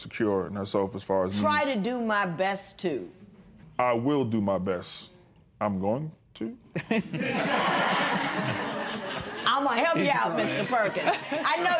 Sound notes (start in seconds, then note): 6.7 laughter